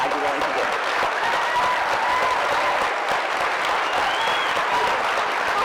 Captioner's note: cheering